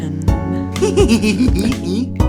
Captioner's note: chuckling